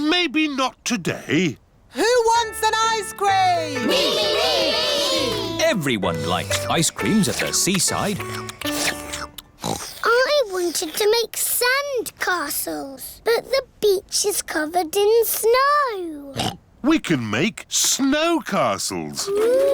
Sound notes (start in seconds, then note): 8.3 slurping; 9.6 oinks; 16.3 oinks